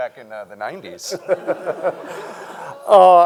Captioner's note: everyone laughing